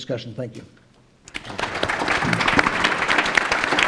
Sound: applause

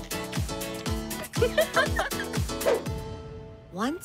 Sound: laughing

